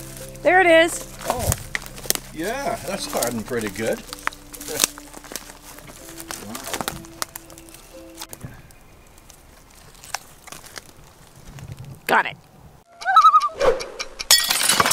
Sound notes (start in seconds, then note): 12.9 loon call